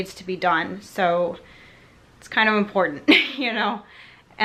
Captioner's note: laughs